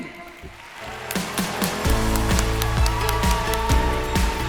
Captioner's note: audience applauds